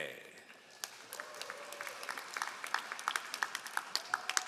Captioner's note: all applauding